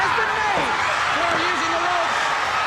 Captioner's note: crowd clamoring; wrestlers grunting